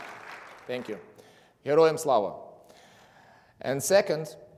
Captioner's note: speaking in foreign language